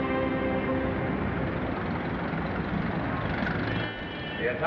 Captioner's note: engines rumbling